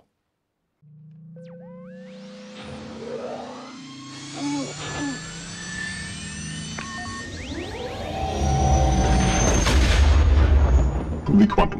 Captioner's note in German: Millennium Falcon Triebwerksgeräusche